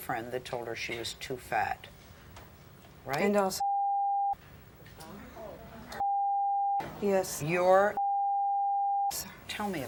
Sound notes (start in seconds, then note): 5.3 audience murmurs; 6.0 beep; 8.0 beep